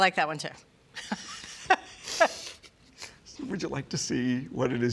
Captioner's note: laughs